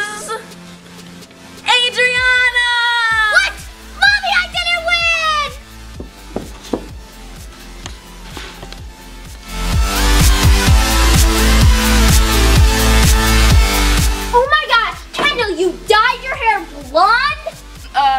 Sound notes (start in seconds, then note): 5.9 stomping; 9.5 energetic techno music